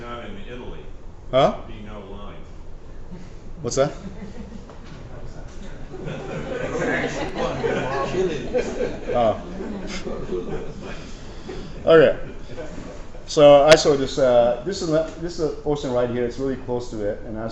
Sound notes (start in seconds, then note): 5.6 laughter